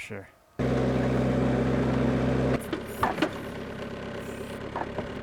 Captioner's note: engine rumbles